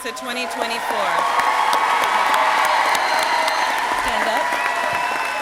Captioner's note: crowd cheering and applauding